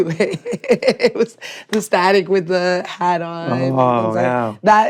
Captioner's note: laughs